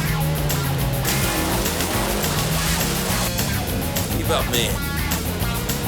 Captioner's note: energetic funky music continues; car engines revving; water splashing